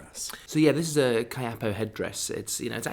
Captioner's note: voiceover